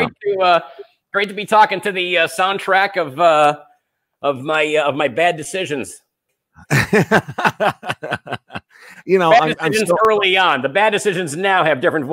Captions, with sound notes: It's great to be talking to the soundtrack of my bad decisions. (laughing) - You know, I'm still-- - Bad decisions early on. The bad decisions now have different